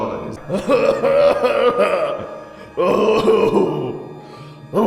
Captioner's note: relentless macho sobbing